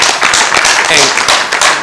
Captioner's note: applause